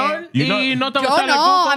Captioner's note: speaking In Foreign Language